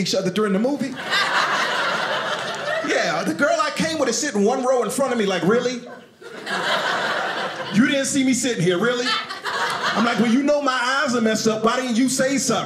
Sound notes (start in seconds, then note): 0.8 audience laughing